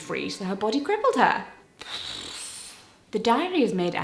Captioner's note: blows air